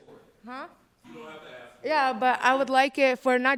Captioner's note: speaking faintly off mic